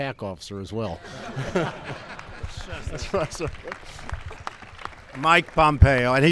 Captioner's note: laughter and applause